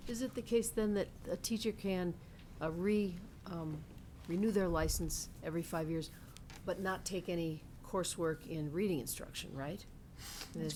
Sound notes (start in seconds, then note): none